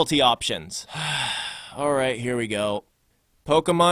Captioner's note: sigh